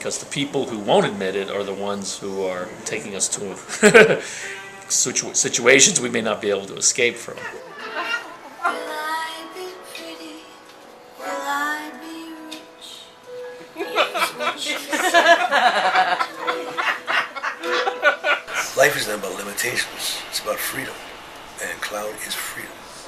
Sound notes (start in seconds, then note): 13.8 laughter; 15.6 more Laughter